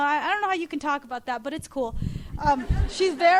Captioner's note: audience laughs